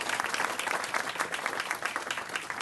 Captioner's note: applause